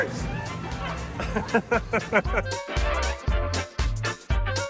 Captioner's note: laughs